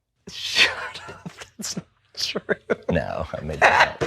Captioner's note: laughs